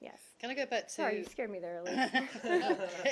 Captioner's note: laughter